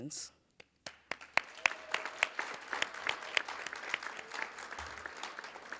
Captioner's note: cheers, applause